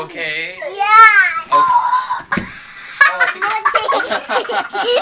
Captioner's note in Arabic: للأطفال يضحك